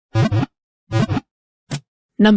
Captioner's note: Pokéball wiggle sound